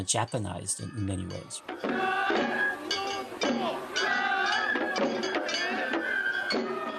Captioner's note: soundbite of archived recording